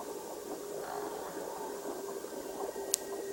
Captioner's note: door creaking